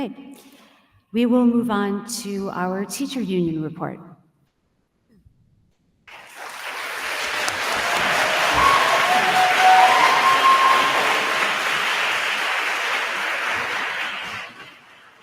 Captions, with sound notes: Okay, we will move on to our Teacher Union Report. (attendees applauding) (attendees cheering)